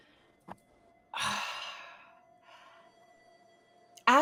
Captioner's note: sighs